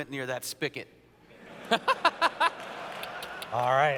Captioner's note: laughter